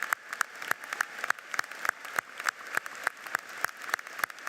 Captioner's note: audience applauds